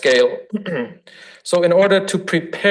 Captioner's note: throat clears